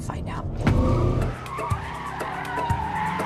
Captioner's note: engine revs, tires screech